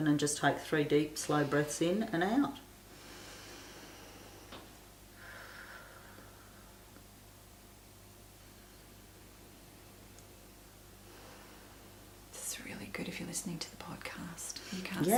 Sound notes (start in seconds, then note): 3.3 inhaling and exhaling